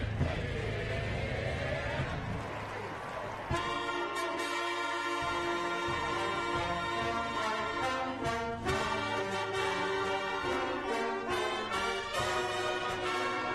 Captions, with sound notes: TO EACH ONE OF YOU, AND ON, WISCONSIN! PARAGRAPH (APPLAUSE) PLEASE JOIN PROFESSOR LECKRONE AND THE UNIVERSITY BAND IN SINGING